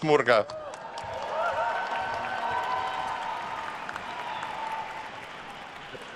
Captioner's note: attendees cheering and applauding